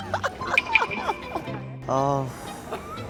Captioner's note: embarrassed laughter